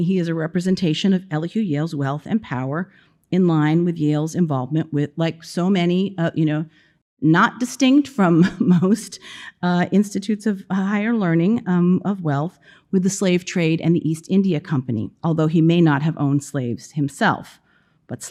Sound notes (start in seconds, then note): 9.0 chuckling